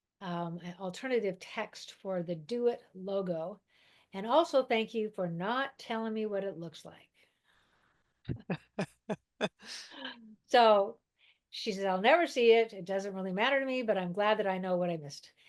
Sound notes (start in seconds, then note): 8.3 both laugh